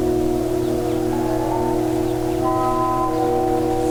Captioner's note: wind howling